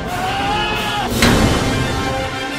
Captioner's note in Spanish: bang